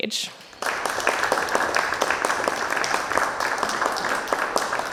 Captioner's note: audience applauding